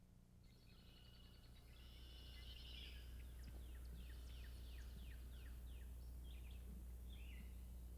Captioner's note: sounds of nature